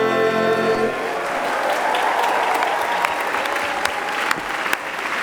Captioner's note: audience applauding